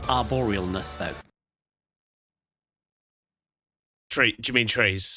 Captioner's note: silence